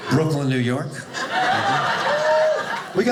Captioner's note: audience laughing